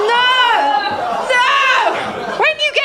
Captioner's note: laughter; laughter